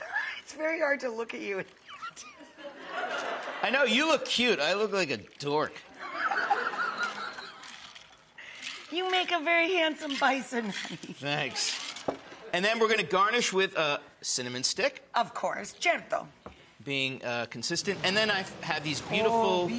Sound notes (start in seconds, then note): 2.3 audience laughs; 5.9 audience laughs; 6.0 laughs